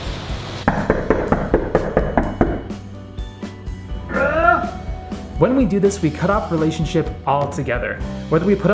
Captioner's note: knock knock knock knock knock